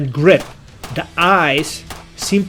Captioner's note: pistol firing rapidly